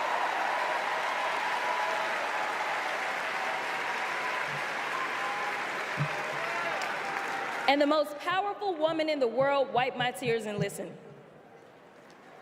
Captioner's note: applause